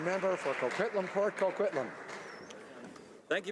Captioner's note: applause